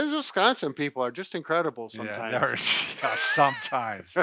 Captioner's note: laughs